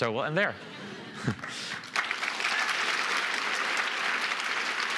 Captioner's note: applause